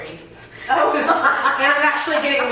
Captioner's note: laughing